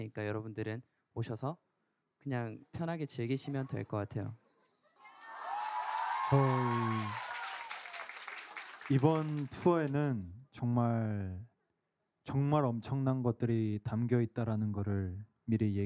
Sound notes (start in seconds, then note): 5.0 cheering; 8.9 speaking in foreign language